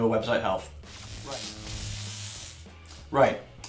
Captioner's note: electric static